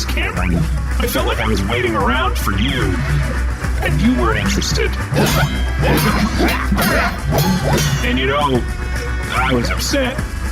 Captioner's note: clashing